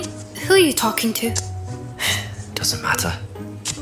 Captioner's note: sigh